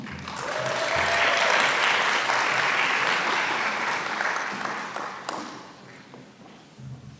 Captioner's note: applause